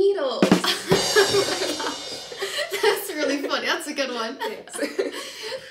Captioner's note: laughing